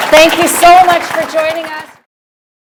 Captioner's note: applause